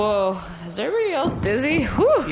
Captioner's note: out of breath